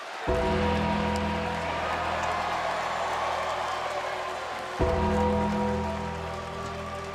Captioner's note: ominous music; thunder rumbling